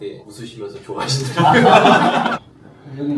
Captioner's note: laughs